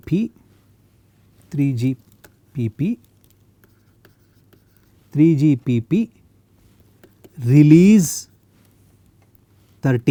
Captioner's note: TV transmission